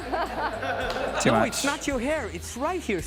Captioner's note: laughing